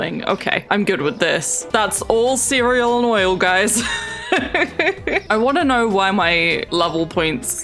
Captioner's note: laughs